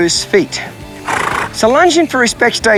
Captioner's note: horse sighing